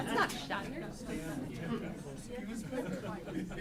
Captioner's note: indistinct group chatter